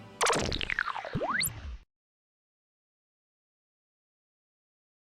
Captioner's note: energetic music; electronic whirring